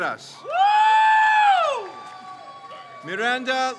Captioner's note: crowd cheers